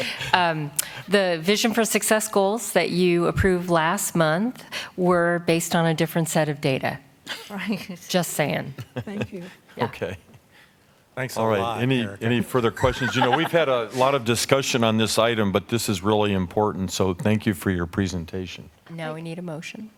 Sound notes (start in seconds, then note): 10.6 laughter